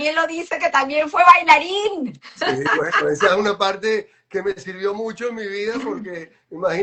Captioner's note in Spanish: risas